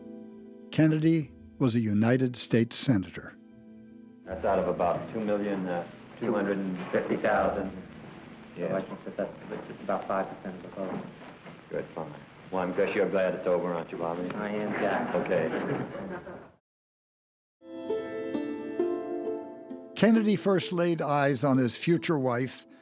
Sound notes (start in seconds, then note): 15.0 laughter; 17.6 soft music